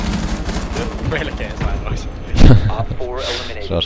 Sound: chuckle

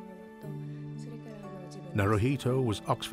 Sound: Masako speaking in foreign language

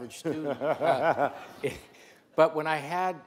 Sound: laughs

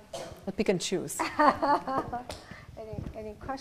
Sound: laughing

